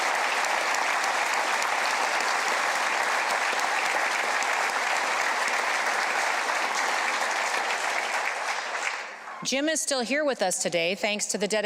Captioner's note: applause